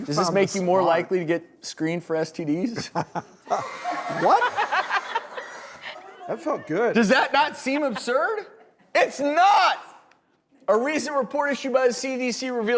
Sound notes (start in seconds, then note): 3.4 laughing and audience cheering; 5.1 laughing